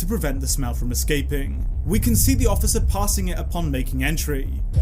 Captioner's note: none